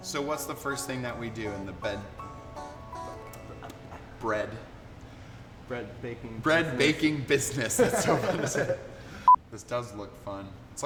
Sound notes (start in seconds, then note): 7.7 laughter